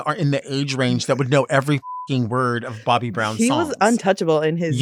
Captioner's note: beeps